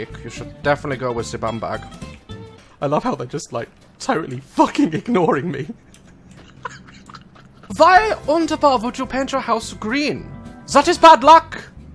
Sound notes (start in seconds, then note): 2.5 normal voice; 4.8 laughs; 7.6 German accent